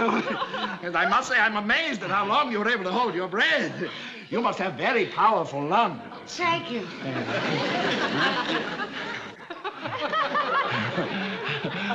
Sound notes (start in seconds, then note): 8.3 whispering; 10.7 nervous chuckle